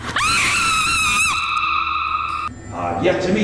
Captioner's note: screaming